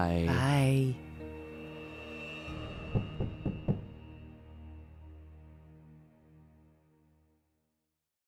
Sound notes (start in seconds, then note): 2.6 eerie music; 2.9 door knocks